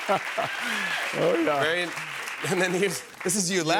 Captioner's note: laughs